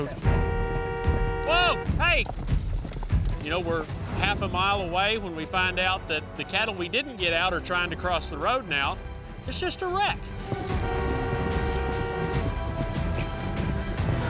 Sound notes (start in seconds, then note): 0.0 car horns honking; 10.4 car horns honking